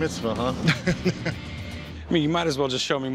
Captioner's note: laughs